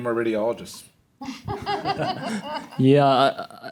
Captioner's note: laughter